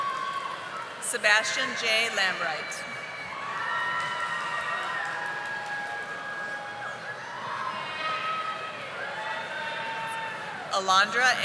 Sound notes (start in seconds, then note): 4.9 audience applauding